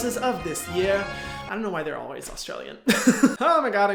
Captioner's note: laughs